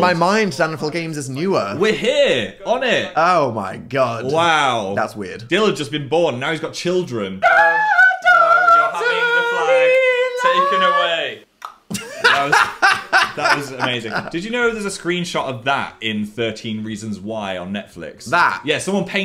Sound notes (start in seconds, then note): 7.4 screaming; 11.6 clicks tongue; 11.9 laughs